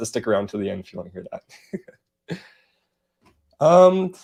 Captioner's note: laughs